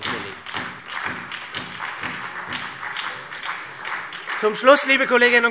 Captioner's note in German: Beifall SPD